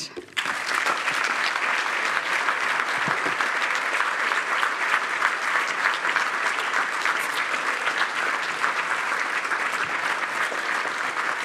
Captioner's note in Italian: Applauso